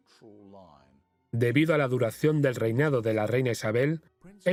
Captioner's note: voiceover